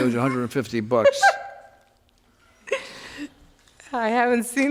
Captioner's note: woman laughs